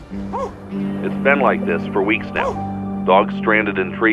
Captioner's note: man on radio